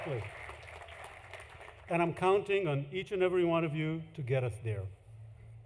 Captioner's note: applause